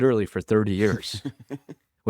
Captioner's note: laughs